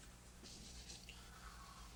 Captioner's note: sipping